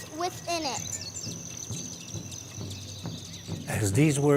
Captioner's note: birds chirping; drums beating